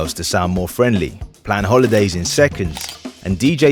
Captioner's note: camera shutters